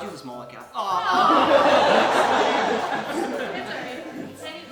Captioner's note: audience laughing